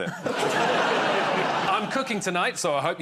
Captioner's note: laughter